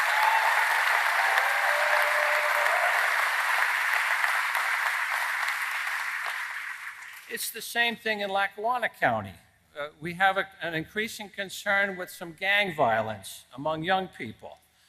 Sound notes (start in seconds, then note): 10.3 applause